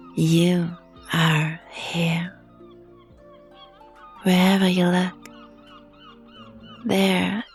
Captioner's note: sighs